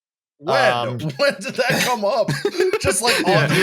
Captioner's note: laughing